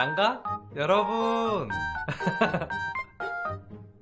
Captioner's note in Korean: 웃음